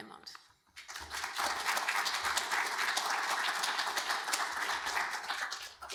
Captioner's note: audience applauding